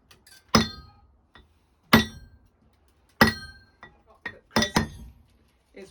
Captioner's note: sound of chisel hitting stone